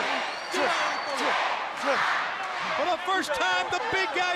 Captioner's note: crowd cheering